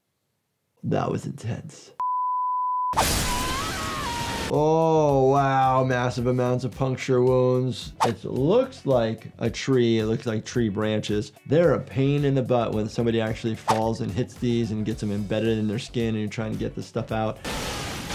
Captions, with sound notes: - That was intense. (beep) Oh wow, massive amounts of puncture wounds. It looks like a tree. It looks like tree branches. There are a pain in the butt when somebody actually falls and hits these and gets them embedded in their skin and you're trying to get this stuff out.